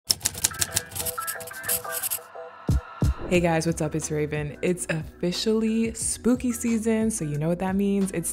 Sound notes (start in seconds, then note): 0.0 typewriter clacking; 0.6 marker scribbling